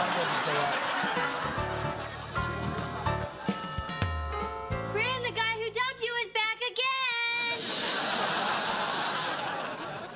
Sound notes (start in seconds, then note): 3.6 doorbell rings